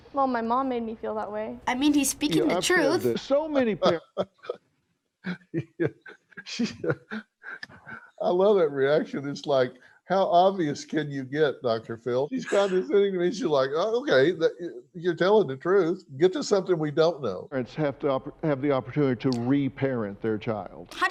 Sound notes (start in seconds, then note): 5.2 chuckling